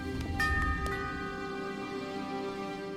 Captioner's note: bell Rings